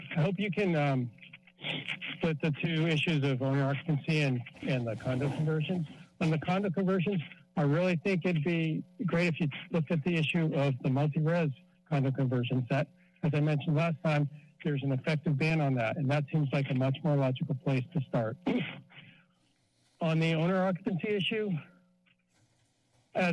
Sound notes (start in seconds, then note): 18.5 sneezes; 21.6 pause